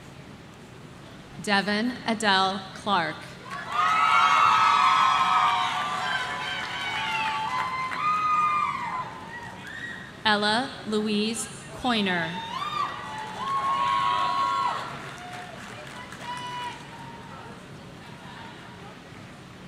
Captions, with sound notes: Devin Adele Clark. (audience cheering) Ella Louise Coyner.